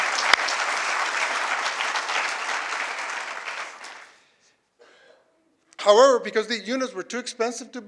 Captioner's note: applause